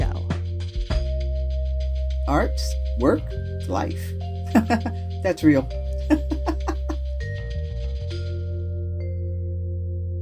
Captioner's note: laugh